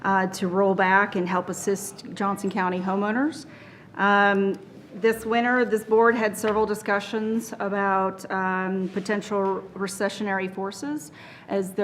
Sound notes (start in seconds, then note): none